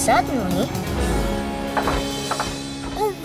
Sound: engine stalling

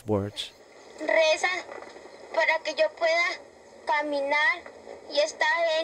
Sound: speaking in foreign language

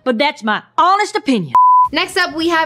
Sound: beep

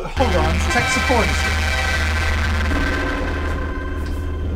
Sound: static

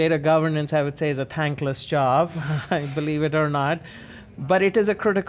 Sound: laughs

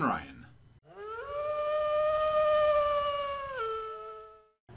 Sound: distant wolf howl

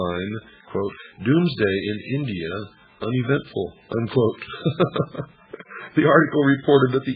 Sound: laughter

